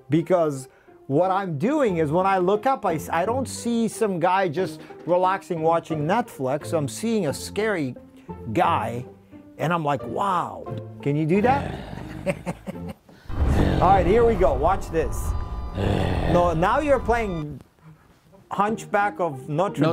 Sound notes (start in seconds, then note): 13.2 horror music plays; 13.3 Ken groans deeply